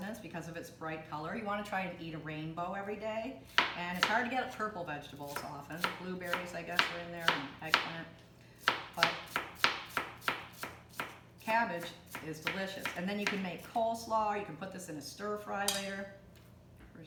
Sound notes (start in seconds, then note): 8.6 chopping